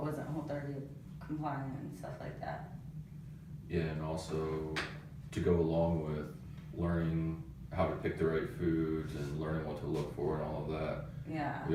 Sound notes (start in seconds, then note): none